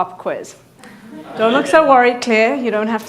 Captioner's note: audience laughing